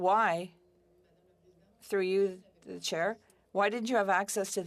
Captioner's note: speaking French